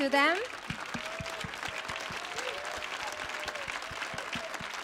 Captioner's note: audience cheering